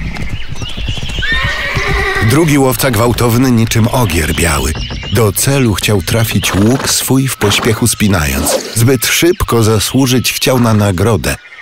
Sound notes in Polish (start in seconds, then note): 8.3 szum strzały